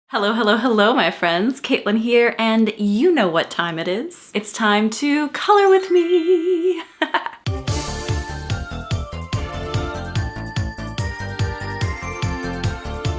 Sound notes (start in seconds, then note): 6.0 laughs; 6.2 chimes ring